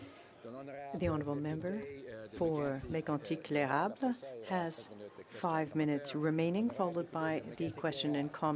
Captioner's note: speaking French